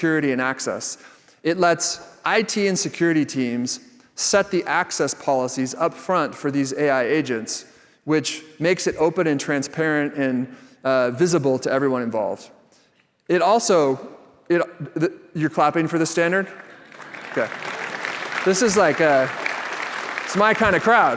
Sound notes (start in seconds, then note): 15.3 laughter; 16.4 applause